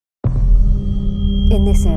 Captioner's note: eerie echoing